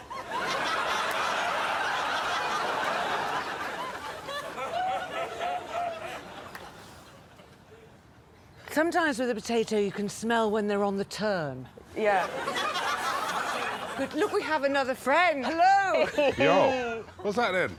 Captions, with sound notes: [laughter increases] Sometimes with a potato you can smell when they're on the turn. Yeah. Look we have another friend. -Hello. -Yo.